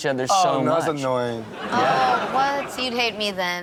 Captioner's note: audience laughs